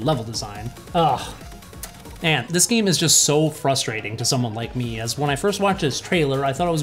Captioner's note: sigh